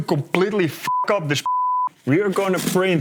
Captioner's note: beep